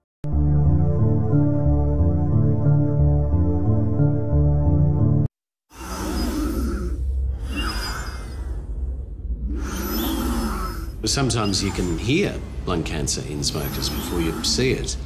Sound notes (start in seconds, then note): 5.6 wheezy breathing